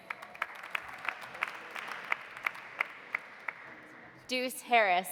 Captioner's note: audience applauding